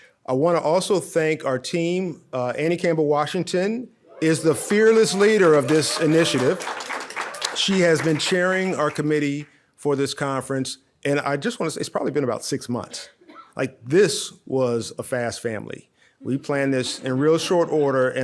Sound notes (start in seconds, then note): 4.1 audience cheering; 16.3 audience laughs